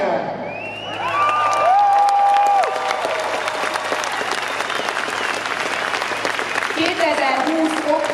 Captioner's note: applause